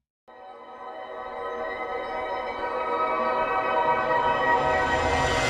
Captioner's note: increasingly loud tone